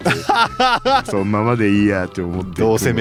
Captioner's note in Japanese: 笑い